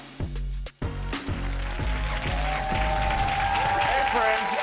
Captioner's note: upbeat music; audience applauding and cheering